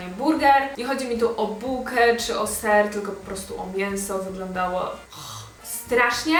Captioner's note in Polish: ugh